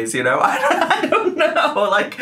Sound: laughs

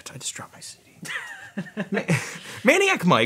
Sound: laughing

